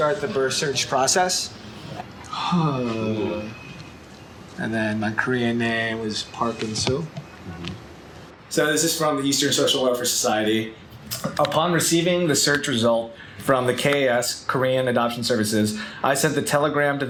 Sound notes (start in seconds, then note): 2.3 sigh